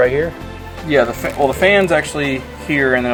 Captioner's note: voiceover